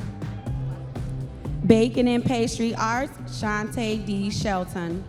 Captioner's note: audience members cheering